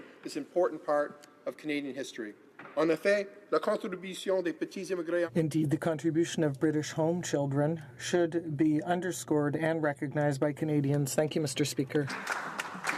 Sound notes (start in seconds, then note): 7.1 speaking in French